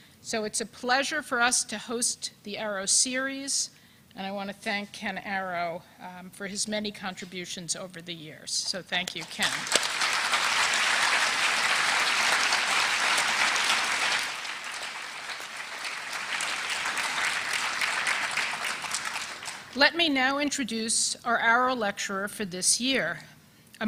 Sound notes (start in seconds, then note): 9.7 applause